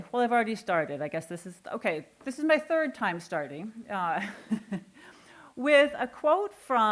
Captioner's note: chuckling